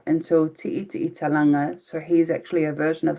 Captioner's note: speaking in foreign language